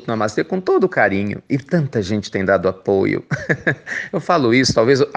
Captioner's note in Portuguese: risos